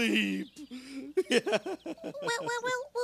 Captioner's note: sobbing